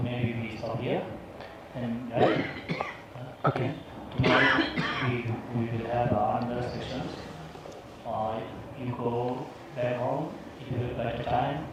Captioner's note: closing prayers and chanting